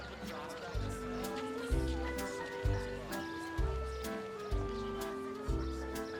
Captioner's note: people chattering; soft jaunty music